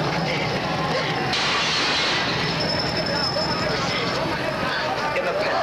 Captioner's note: sound of window breaking